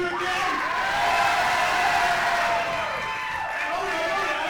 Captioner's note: crowd cheering